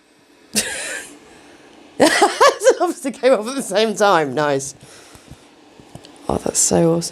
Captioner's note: laughs